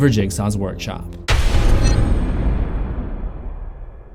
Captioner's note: thunder